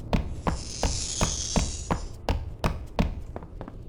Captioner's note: scratching sound